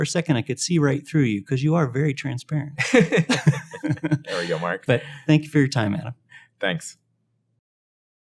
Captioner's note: laugh